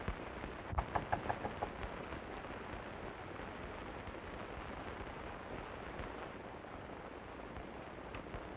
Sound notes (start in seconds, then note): 0.8 knocking on door